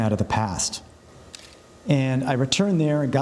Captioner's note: camera clicks